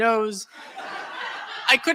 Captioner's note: laughter